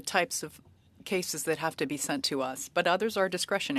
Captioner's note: speaking French